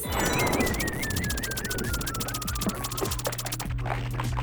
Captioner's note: electronic sputtering